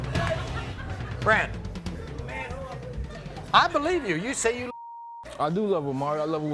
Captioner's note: beep